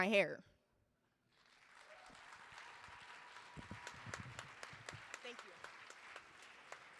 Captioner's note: audience applauding